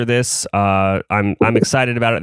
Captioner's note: laughs